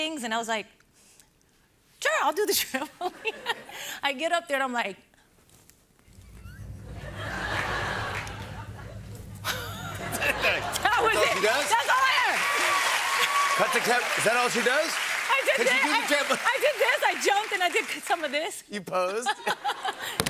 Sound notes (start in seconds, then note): 6.8 laughter; 12.4 cheers and applause